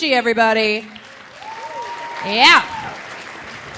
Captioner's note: audience applauding; audience cheering